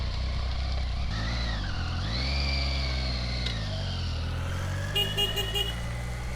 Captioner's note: horn honking